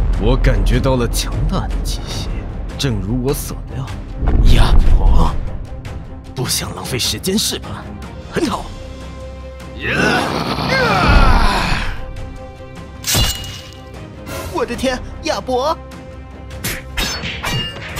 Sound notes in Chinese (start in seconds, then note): 9.8 咆哮